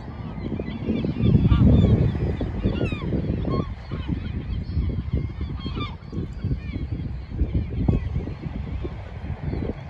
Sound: seaqualls squawking

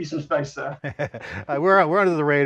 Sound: laughing

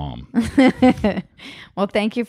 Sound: laughing

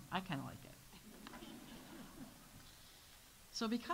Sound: audience laughs

